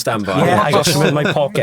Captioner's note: podcasters laughing